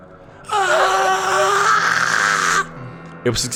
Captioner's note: Sukkal’s groan